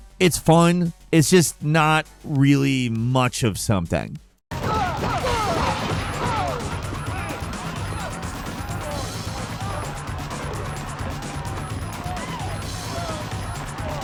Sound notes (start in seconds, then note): 4.6 blows thudding; 4.6 characters grunting; 7.1 crowd yelling; 7.1 upbeat rock music